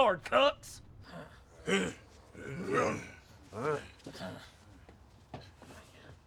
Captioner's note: grunting